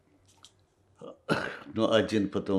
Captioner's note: coughing